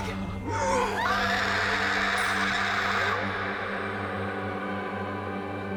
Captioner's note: Rachel shrieks; pale woman roars; somber music